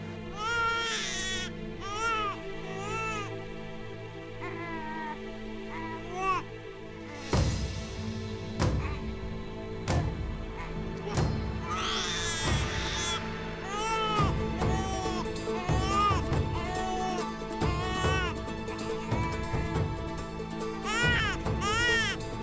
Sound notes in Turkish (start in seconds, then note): 0.2 Osman ağlama sesi; 6.8 Müzik - Gerilim; 13.7 Osman ağlama sesi